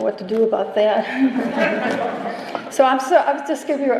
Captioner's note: laughter